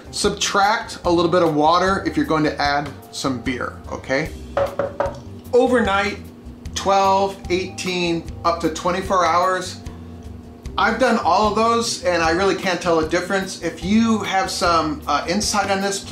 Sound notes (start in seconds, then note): 4.6 knocking